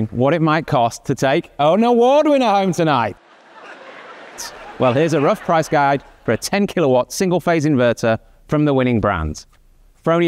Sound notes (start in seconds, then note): 3.1 audience laughing